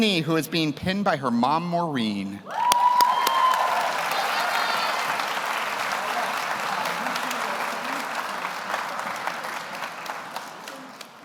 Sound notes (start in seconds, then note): 2.5 audience applauds; 4.0 audience cheers